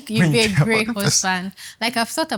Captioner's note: laughs